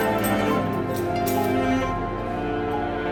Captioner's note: keys rattling